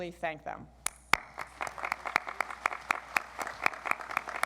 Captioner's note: audience applauds